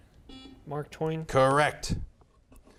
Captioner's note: buzzer beeps